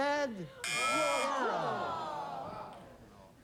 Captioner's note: audience groans; buzzer